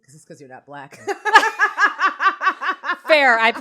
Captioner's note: both laugh